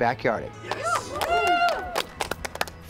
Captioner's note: group cheers and applauds